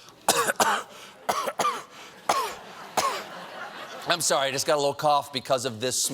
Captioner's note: coughing